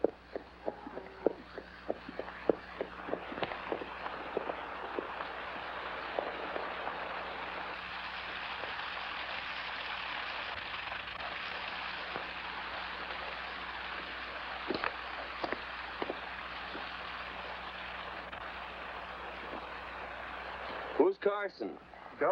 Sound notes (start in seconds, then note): 0.3 hooves trotting; 5.0 water running